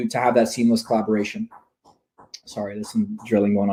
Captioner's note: knocking sound